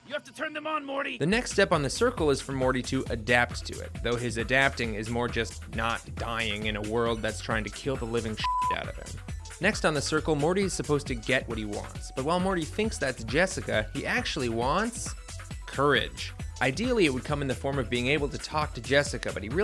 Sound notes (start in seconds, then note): 8.4 beep